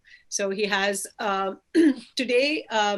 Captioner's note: clears throat